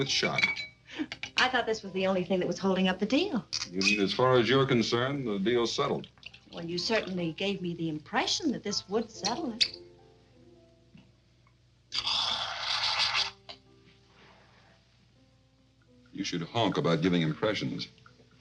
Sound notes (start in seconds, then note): 1.0 Doris laughs; 12.0 liquid hissing